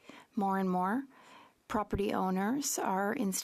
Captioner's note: speaking French